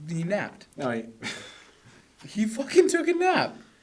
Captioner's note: laughs